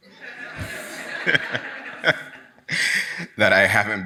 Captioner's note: audience laughs